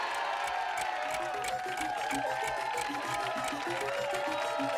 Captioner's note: clock ticking